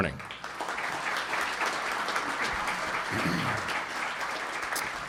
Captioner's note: audience applauding